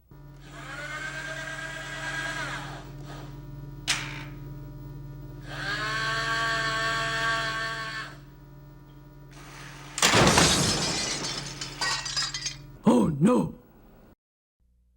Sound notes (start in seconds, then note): 10.0 crashing; 13.2 voiceover